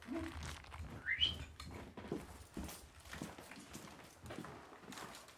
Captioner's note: whistles